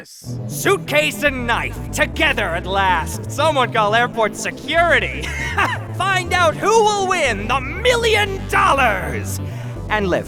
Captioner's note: laughs